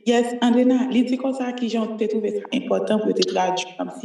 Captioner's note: speaking haitian creole